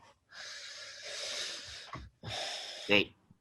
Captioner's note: sighs